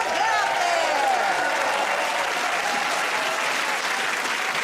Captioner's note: cheers and applause